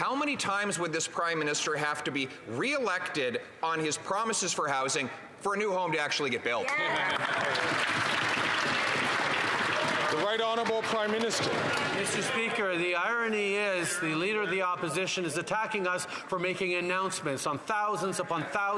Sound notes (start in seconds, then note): 10.7 some Applause